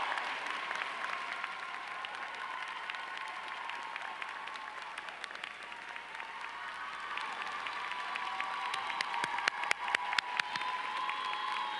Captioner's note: applause